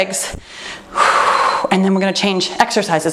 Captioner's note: timer beeps